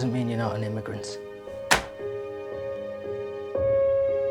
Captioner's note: passport thuds; gentle music continues